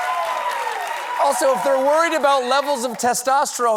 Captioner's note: applause